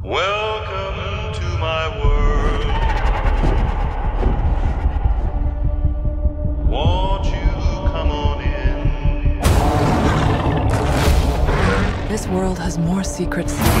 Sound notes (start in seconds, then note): 3.2 pterodactyls roar; 9.5 Kong roars